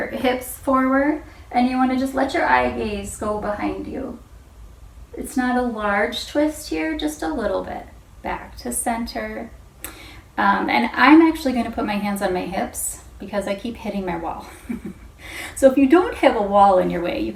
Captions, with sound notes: hips forward and you want to just let your IVs go behind you. It's not a large twist here. Just a little bit. Back to center. I'm actually going to put my hands on my hips because I keep hitting my wall. [chuckles] If you don't have a wall in your way,